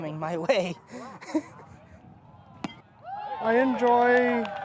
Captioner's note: laughs